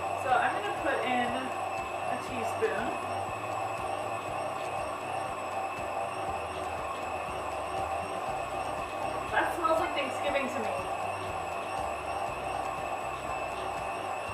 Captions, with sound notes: So, I'm gonna put in a teaspoon. [whirring sounds] That smells like Thanksgiving to me. [whirring sounds]